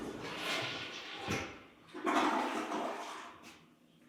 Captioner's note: toilet flushing